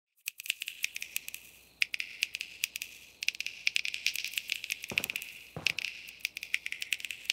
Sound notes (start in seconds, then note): 0.0 repeated finger snapping